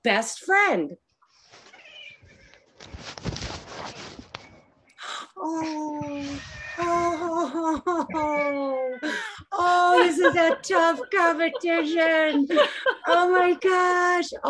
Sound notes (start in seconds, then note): 1.7 cat meows; 10.2 laughs